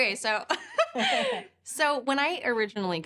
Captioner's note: laughs